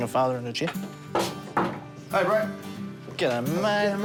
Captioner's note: knock at door